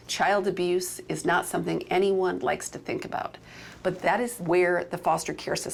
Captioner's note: none